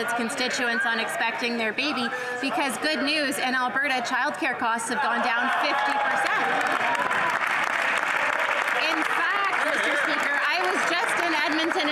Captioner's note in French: voix de l'interprète